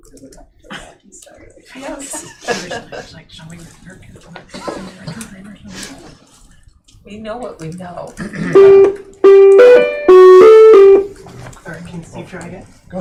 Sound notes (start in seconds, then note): 1.8 laughter; 8.5 beeping